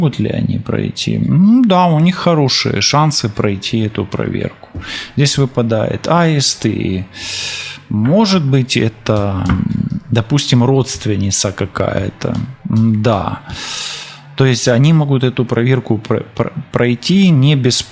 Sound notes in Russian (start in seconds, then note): 13.4 вздыхает; 13.4 тяжело вздыхает